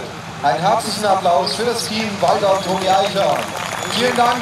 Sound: warm applause for the team Walter and Toni Eichhorn

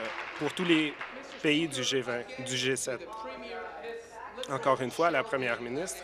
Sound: applause

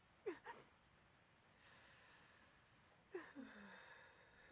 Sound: crying

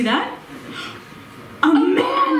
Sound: gasp

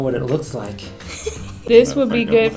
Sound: laughs

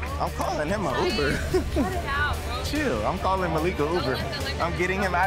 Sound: laughs

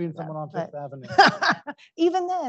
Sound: laughs

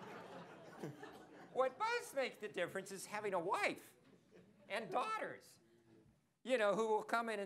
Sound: laughter

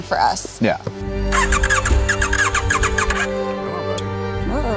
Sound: engine not starting

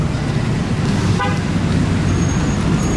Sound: car horn

